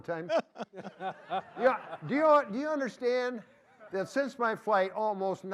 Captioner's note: laughter